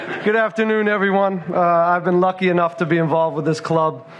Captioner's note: laughter